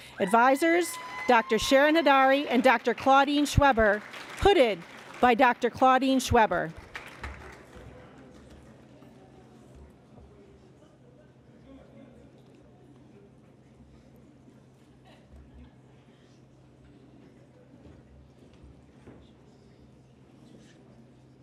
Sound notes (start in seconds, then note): 8.9 applause